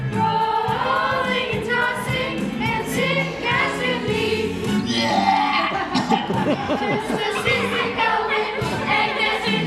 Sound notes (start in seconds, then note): 4.8 vomiting noise from Horton